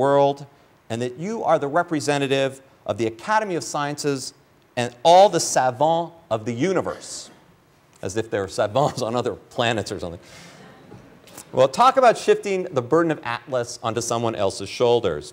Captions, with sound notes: and that you are the representative of the academy of sciences and all the savant of the universe, as if they're savants on other planets or something. [ laughter ] Well, talk about shifting the burden of atlas onto someone else's shoulders.